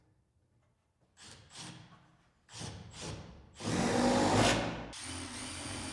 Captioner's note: metals clinking; screw drill whirring